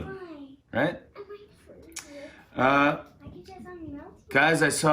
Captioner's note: chattering